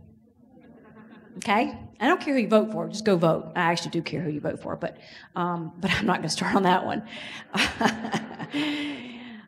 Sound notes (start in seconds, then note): 0.3 audience laughs; 7.5 laughs